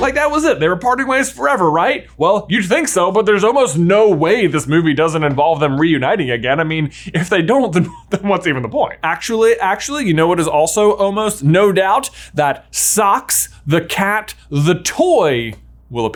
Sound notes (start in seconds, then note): 7.8 chuckles